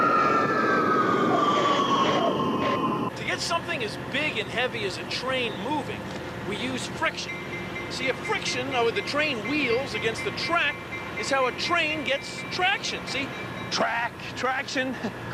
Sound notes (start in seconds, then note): 0.8 brakes squealing